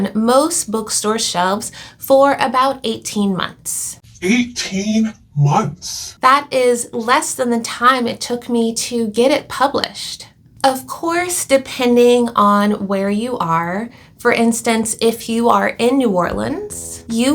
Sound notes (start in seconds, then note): 5.3 low-pitched voice